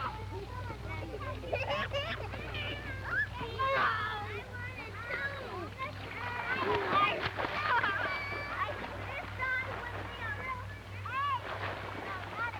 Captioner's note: playful chatter